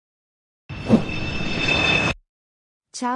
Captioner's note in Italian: Ambience - Jet Flyby; FX - Whoosh - 03